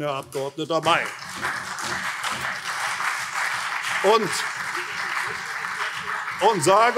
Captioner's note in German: Beifall CDU und SPD